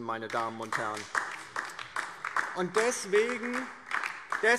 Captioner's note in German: Beifall DIE LINKE